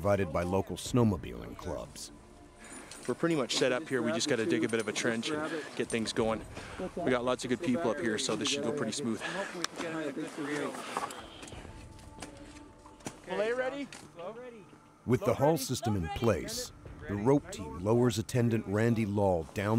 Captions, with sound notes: - It's at the pass. - [Voiceover] As dusk approaches Search and Rescue members, including rope technicians from Nelson, Kaslo, Rossland, and Creston arrive on snowmobiles provided by local snowmobiling clubs. - We're pretty much set up here we just gotta dig a bit of a trench, and get things going. We got lots of good people up here so this should go pretty smooth.